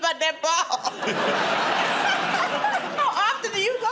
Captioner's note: laughter